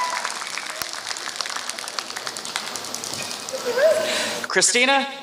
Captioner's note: applause